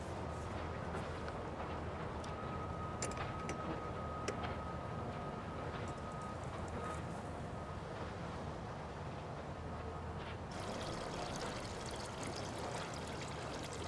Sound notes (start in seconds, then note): 10.5 water trickling